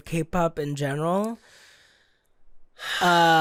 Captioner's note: deep sigh